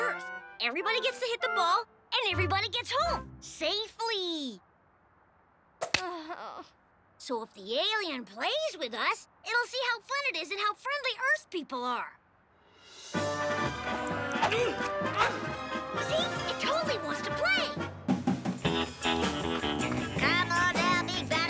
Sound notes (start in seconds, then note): 6.1 girl groans; 13.2 upbeat music; 14.4 boy grunting; 18.6 upbeat music